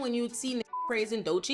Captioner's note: beep